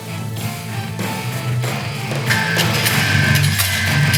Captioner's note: metal clanging rhythmically